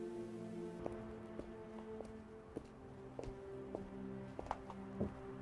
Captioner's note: footsteps clacking